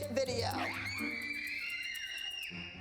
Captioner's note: screaming in excitement